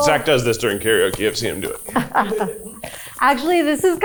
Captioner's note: chuckling